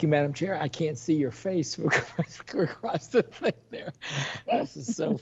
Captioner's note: laughs